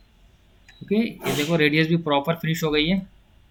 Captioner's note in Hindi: नाक से की जाने वाली आवाज़